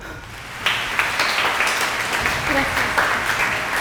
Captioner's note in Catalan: Aplaudiments